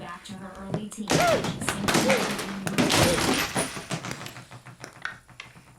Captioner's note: TV smashing, news cuts out